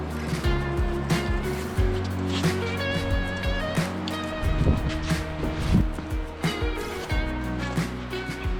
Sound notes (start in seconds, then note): 3.0 water Waves